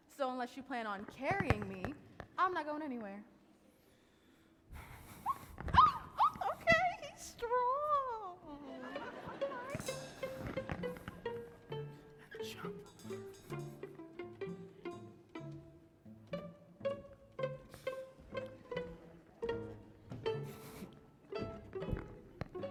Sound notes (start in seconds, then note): 4.8 sighs; 8.5 laughter from audience